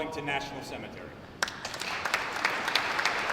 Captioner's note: applause